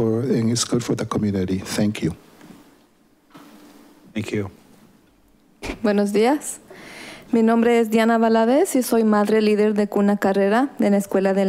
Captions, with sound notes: For it, think it's good for the community. Thank you. - Thank you. (woman speaking foreign language)